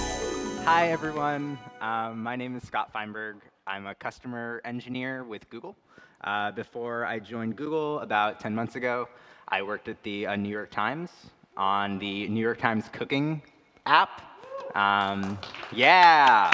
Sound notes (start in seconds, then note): 14.7 applause